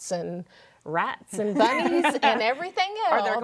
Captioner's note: women laugh